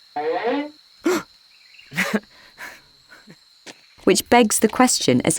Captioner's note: Judas gasping; Judas nervously laughing